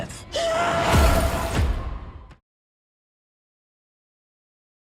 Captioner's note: suspenseful drop; wailing